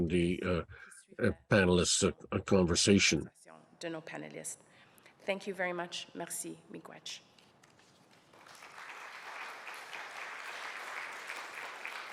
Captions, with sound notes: following the panelists conversation. Thank you very much. [speaks other languages] [audience applauds]